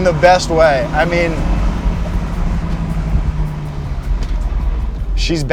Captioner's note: car engine revving